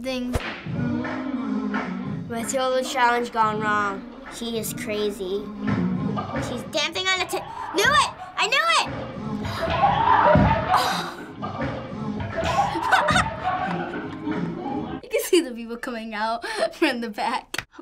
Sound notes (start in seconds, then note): 0.6 humming; 9.1 gasping; 9.1 onlookers laughing; 12.8 laughing